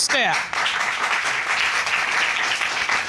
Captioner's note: audience muttering; audience applauding